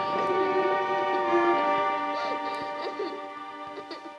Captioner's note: girl sobs